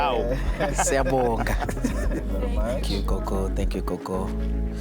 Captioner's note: laughs